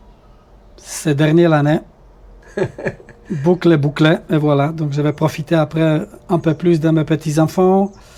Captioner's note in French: rires